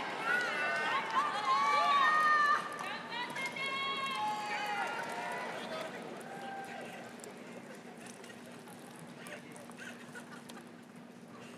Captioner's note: crowd cheering; laughing